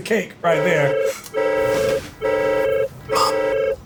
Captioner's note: phone rings